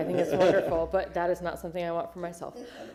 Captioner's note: laughter